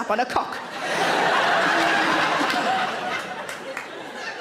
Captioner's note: audience laughing